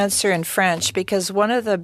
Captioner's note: speaking French